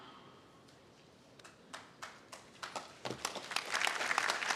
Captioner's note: audience applauding